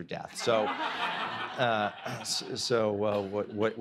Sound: audience laughs

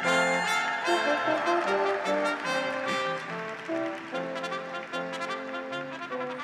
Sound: graduates cheer; audience applauds

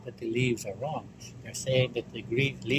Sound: none

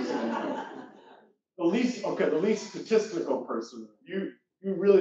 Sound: laugh

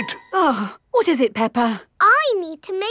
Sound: gasps; sighs

